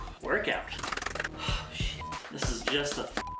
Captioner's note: sighs